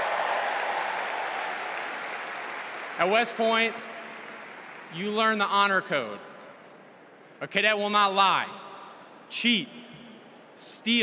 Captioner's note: cheers and applause